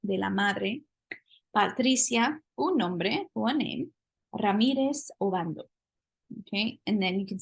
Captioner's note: spanish; spanish